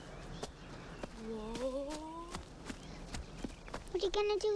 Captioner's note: leaves rustling